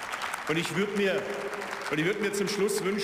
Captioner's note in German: Beifall